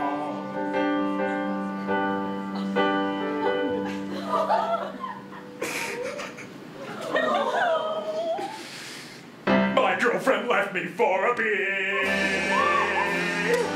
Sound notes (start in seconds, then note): 3.3 audience laughing; 3.9 Ken cries